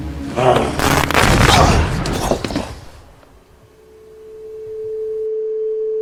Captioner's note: monster grunts; electricity crackles; eerie music